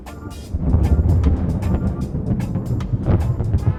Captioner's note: thunder booming